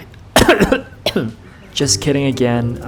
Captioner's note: whispered; coughs